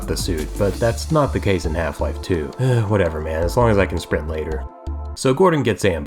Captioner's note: sigh